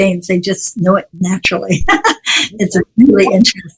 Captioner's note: laughs